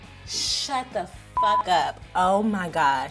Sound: beeps

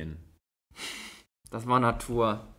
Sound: laughs

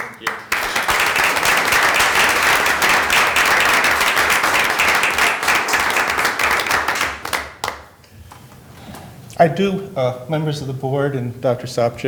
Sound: applause

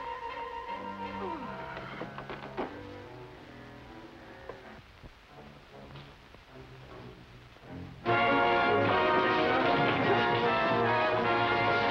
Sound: sighs

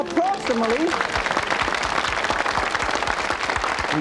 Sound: audience cheering

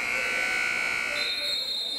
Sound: buzzer; whistle

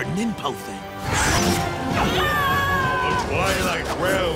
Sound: yelling

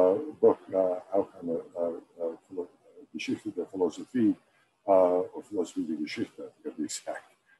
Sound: speaking german

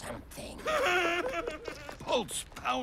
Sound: wailing in fear

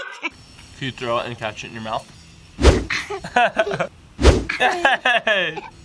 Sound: laughing

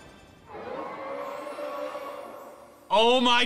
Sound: Xerneas growling

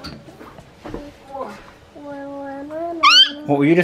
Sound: squeaaaal!

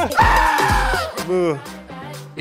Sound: yelling; screaming

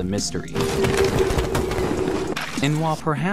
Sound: howling

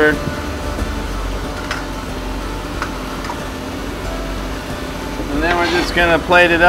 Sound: fish sizzling sounds

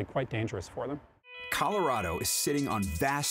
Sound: voiceover

